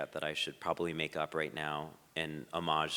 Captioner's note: none